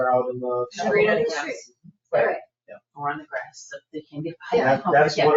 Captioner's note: people chattering; people chattering